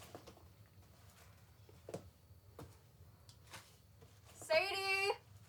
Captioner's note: footsteps echo